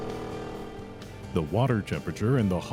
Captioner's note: aerator motor sound